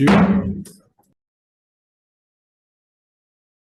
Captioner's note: gavel bangs